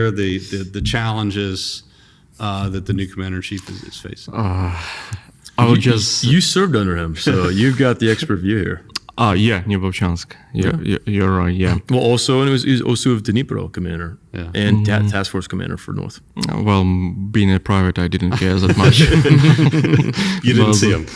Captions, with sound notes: the, the, the challenges, uh, that the new commander-in-chief is, is facing. Oh, I would just- You, you served under him, so you've got the expert view here. Oh, yeah, Neuvochansk. Yeah, you're, you're right, yeah. Well, also, and it was, he was also of Dnipro commander. Yeah. And ta- task force commander for North. Well, being a private, I didn't care that much. [laughing] [laughing] You didn't see him.